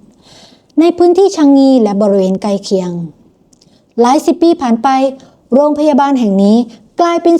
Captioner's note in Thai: เสียงสูดหายใจ